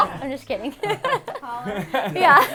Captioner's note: all laugh